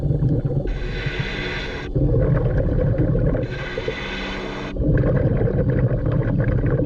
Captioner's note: water bubbling; mouthpiece hissing; gentle music continues